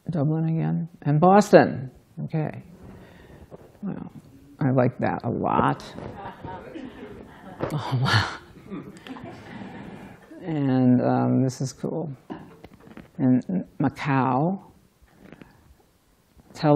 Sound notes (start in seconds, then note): 6.0 laughter